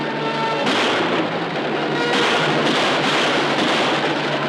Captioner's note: gun firing